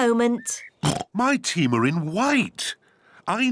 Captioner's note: oinks